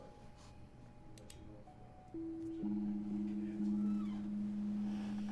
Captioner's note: office ambiance